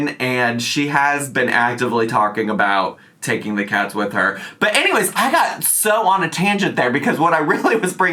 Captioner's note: none